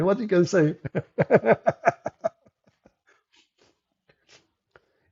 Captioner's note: Ketawa